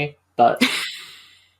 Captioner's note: laughs